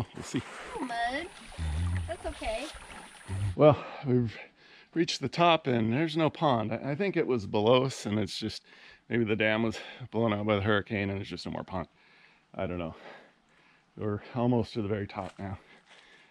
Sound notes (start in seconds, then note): 1.7 water gently flowing; 15.6 catching breath